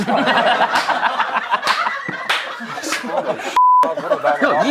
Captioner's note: laughing